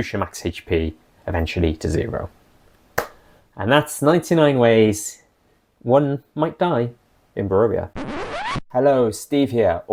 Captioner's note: record scratch